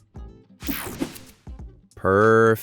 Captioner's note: scene change cracks